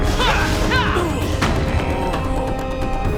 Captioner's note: groaning; grunting